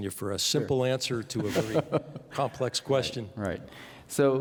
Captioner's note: laughing